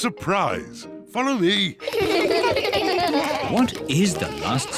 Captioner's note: kids laugh